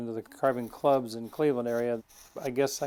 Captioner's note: tool scraping